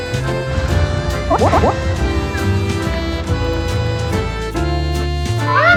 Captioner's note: the epic fireworks finale